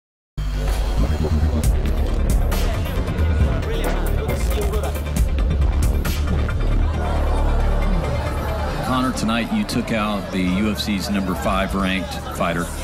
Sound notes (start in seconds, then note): 0.6 electronic music; 6.9 crowd chatter